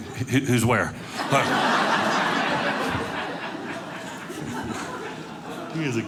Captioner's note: audience laughing